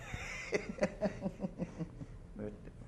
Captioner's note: laughter